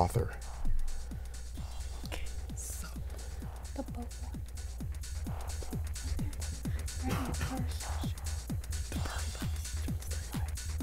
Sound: wispering

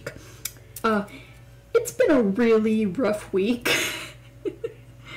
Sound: laughter

